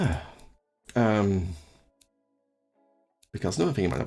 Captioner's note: ahh